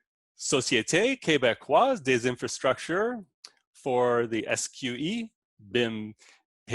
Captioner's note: speaking in foreign language